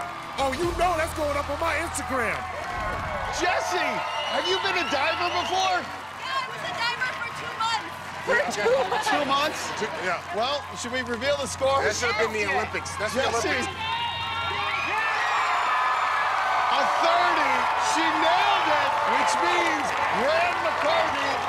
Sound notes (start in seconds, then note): 15.4 cheers and applause